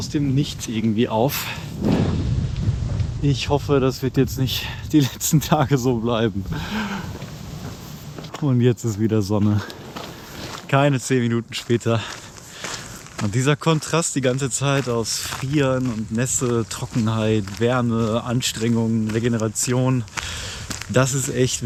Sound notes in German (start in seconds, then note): 6.5 Japst